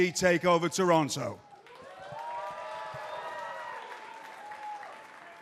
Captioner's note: cheers and applause